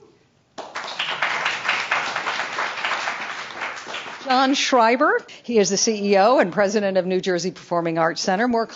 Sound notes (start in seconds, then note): 0.5 audience clapping